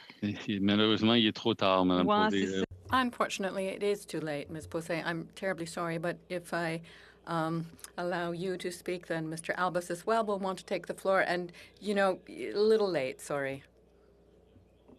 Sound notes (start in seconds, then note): 8.3 speaking French